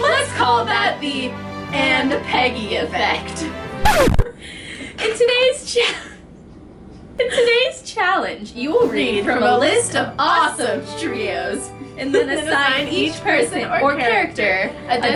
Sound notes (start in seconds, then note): 6.0 laughs